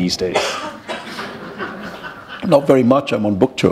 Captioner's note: chuckle